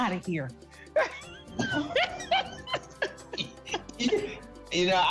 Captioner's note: laughter